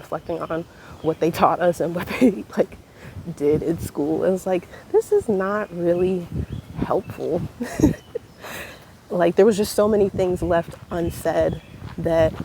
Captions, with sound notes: and reflecting on what they taught us and what they, did in school, it was like, "This is not really helpful." *laughs* like, there was just so many things left unsaid that